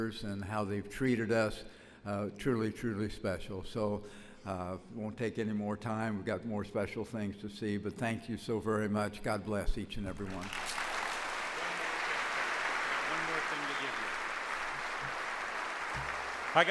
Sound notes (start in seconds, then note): 10.2 audience applauds